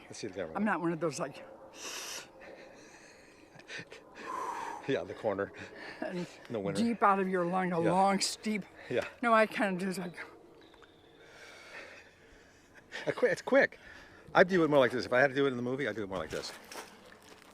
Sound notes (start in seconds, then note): 1.7 inhaling; 4.3 exhaling